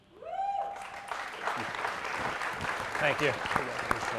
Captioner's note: applause